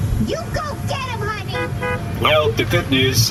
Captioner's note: honking the car horn supportively